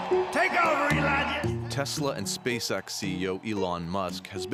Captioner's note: cheers and Applause